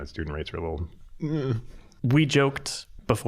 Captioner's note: unsure groan